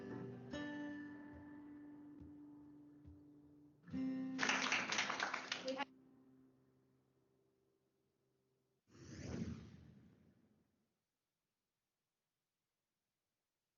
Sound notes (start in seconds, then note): 4.3 applause